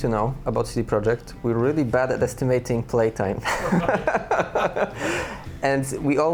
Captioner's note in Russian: смеётся